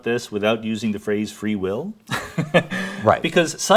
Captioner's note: laughs